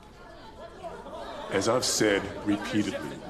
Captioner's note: people clamoring